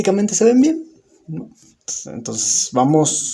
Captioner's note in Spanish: Silencio